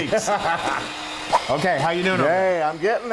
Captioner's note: laugh